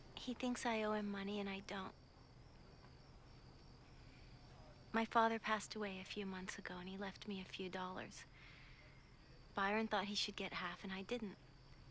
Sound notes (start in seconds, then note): none